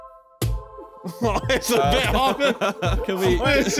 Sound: christmas trap music; laughing

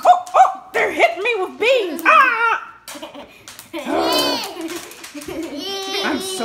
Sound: screams

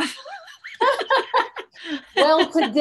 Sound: laughing

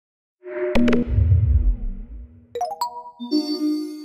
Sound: logo swooshing

